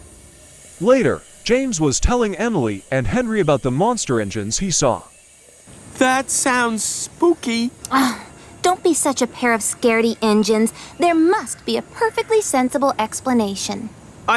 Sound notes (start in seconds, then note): 7.9 scoffs